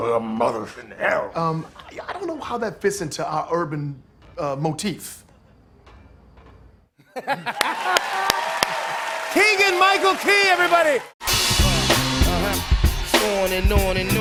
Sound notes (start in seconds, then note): 7.0 laughs; 7.4 cheers and applause